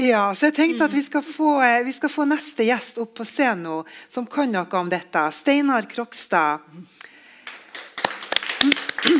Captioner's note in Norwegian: klapping